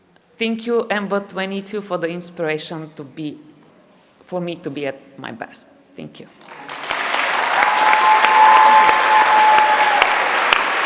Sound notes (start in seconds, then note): 6.4 applause